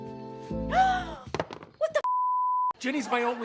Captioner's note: gasps